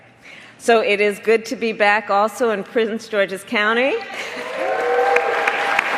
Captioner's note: applause